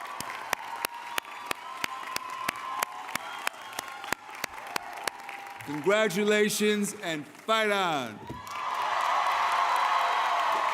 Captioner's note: cheering